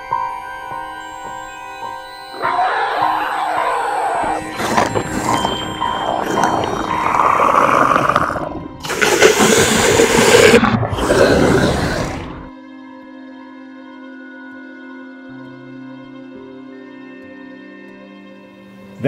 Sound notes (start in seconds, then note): 0.0 suspense music; 2.4 growls and roars; 12.3 suspense music